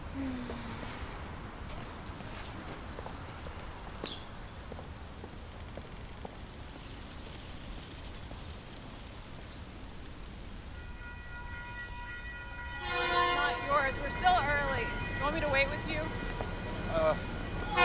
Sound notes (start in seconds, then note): 0.1 Laura sighs; 4.8 footsteps recede; 10.7 crossing bell rings